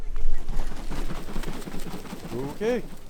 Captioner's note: wings flapping